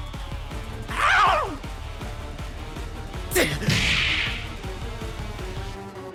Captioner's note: scream of the snake god